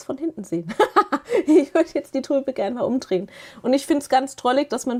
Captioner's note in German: gelächter